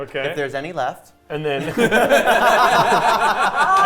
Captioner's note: players laughing